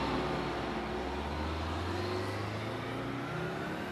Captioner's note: bus roaring away